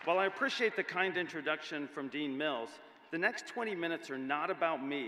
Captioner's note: applause